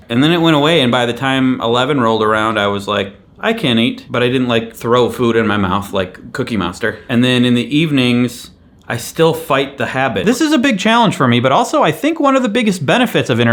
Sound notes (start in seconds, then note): none